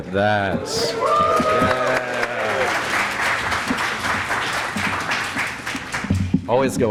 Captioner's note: applause